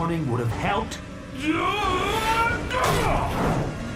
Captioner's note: screams